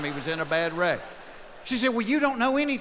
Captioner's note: laughing